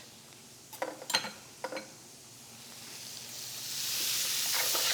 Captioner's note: sizzling